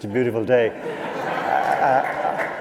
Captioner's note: laughter